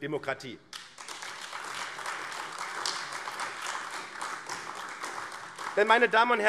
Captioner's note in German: Beifall AfD